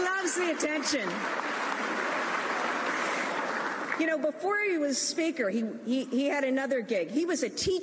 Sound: cheers and applause

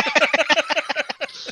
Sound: laughter

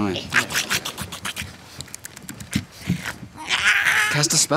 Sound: small growling noises; shrieks

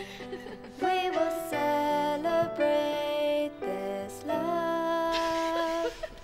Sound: children sniggering

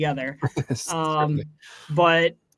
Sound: chuckles and comments indistinctly

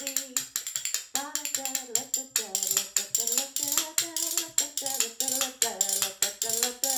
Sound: rattling spoon music; humming melodically

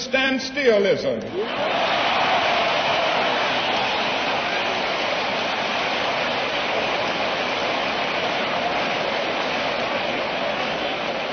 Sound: applause

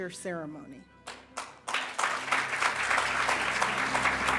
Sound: audience applauding; orchestral music

